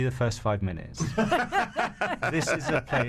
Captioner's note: laughs